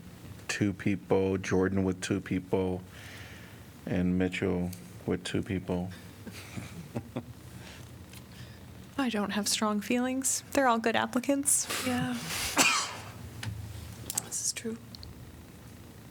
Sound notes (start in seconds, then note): 6.2 laughter